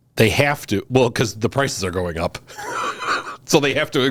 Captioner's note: laughs